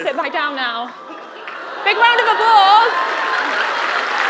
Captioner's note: applause